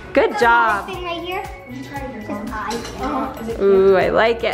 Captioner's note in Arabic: ثرثرة غير مسموع